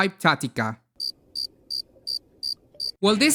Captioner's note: crickets